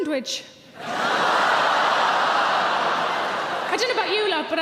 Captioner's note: audience cheering